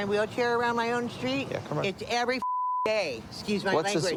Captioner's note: beep